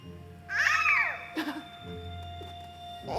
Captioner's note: baby yells excitedly